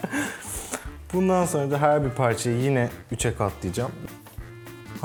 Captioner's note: laughter in the background